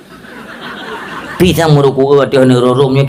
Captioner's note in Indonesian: tertawa